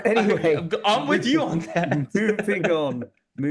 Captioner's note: laugh